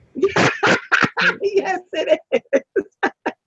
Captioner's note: laughter